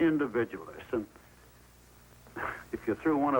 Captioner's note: chuckles